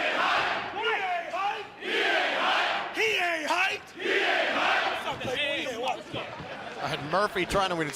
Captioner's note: fans chanting